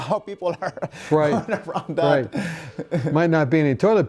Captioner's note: laughing